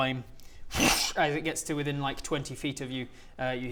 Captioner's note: whoooosch